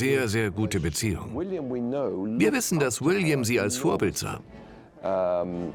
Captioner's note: voiceover